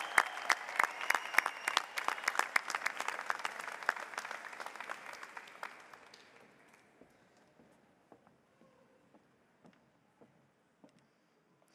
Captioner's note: applause